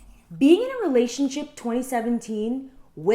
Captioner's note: none